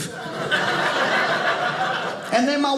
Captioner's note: audience laughing